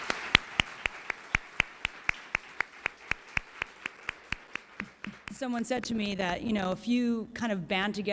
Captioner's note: applause